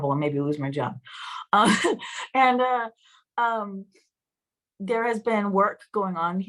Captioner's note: laughter